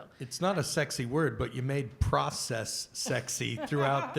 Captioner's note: laughter